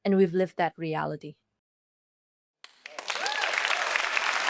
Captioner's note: applause